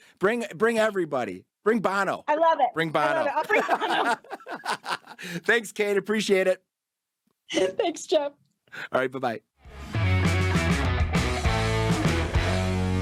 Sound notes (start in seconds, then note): 3.2 laughs; 9.8 upbeat music